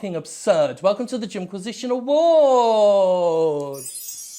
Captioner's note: magic tinkling